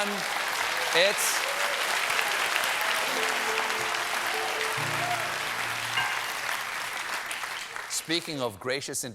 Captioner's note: applause